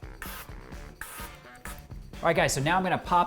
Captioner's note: air spraying